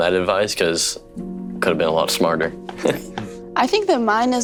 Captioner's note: chuckles